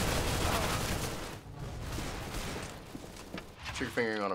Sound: heavy gunfire; faint gunfire; in game: death groan

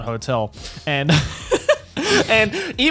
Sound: laughs

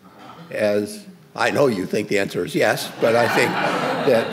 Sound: audience laughs

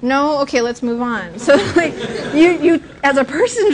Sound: laughter

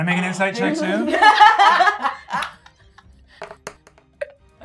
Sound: gamer laughing

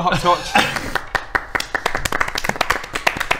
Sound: well-deserved applause

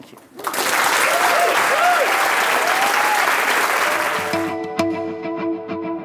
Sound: applause

